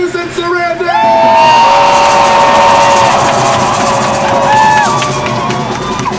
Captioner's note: crowd screams